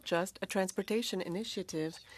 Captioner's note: speaking French